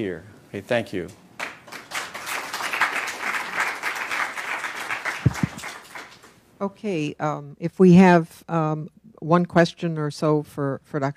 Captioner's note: applause